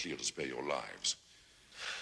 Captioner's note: Dan scoffs